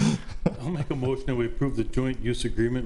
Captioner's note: trustees laughing